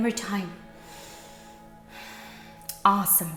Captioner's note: inhales and exhales